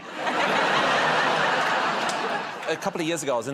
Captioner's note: laughter